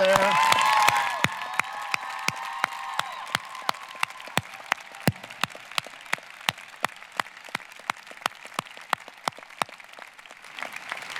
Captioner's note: applause, cheering